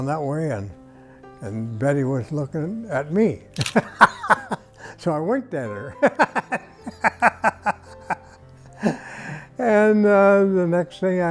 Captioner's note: laughing